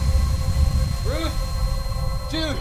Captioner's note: explosion